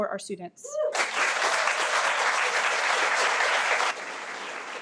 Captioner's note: audience applauding